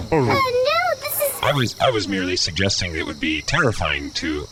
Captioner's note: stuttering